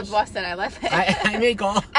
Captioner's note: laughs